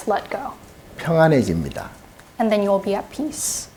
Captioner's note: speaking Korean